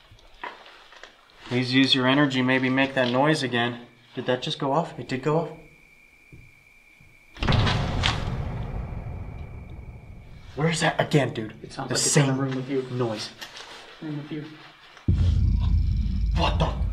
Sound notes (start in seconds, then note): 7.5 footsteps